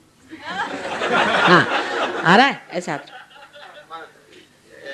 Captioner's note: laughter